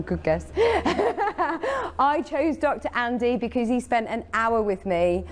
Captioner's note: giggles